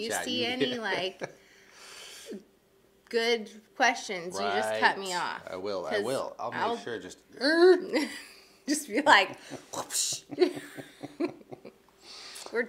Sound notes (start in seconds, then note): 7.2 mimics robotic sound; 9.1 laughs; 9.5 mimics robotic sound